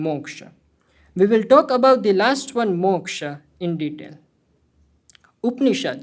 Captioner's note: hindi